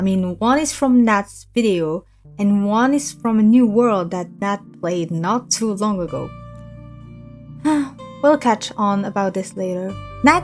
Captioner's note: sighs